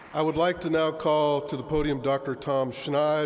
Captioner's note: applause